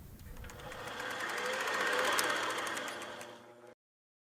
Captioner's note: computer trilling